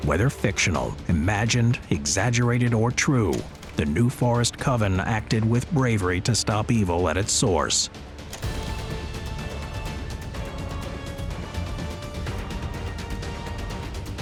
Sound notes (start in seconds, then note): 7.2 dramatic music; 8.1 tape reeling; 11.3 dramatic music